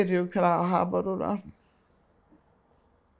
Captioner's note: pauses 6 seconds